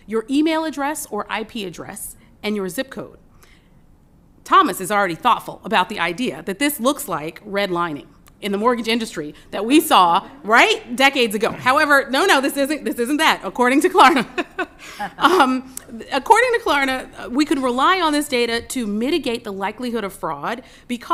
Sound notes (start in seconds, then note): 14.1 laughter